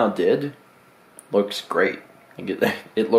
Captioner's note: chuckles